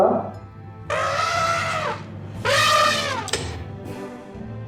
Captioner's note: happy elephant noises